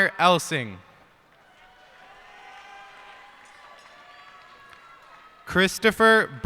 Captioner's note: cheers and applause